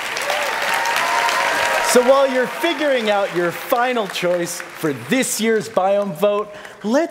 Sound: applause

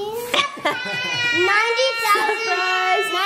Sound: yelling

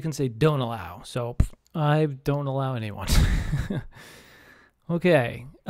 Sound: laughs

